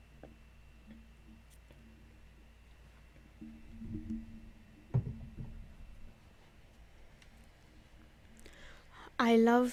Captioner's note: pause